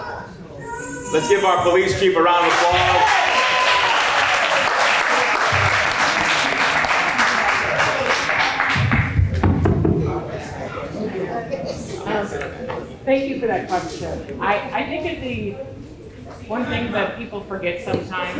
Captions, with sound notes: Let's give our police chief a round of applause. [Applause] Thank you for that question. I think that the one thing that people forget sometimes